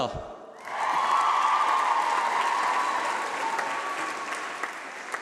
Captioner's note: applause